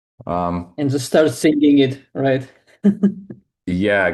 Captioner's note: chuckles